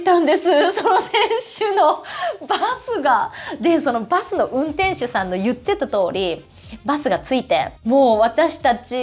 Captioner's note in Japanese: 笑い